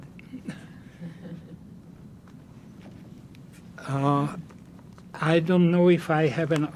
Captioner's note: laughing